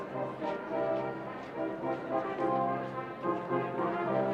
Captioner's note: none